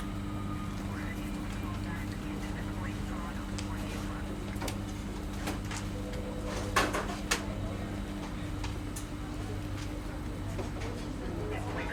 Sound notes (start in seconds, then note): 0.8 radio chattering; 2.1 people chattering